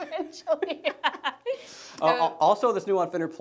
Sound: laughing

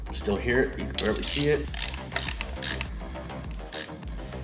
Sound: ratcheting

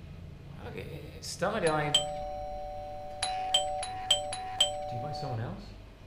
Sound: doorbell rings

